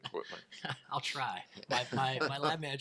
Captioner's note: laughs